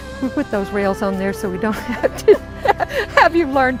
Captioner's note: laughing